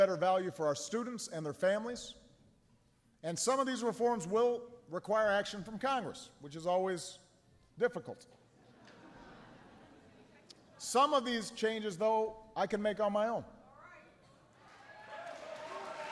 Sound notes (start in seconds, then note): 8.6 laughter; 14.6 applause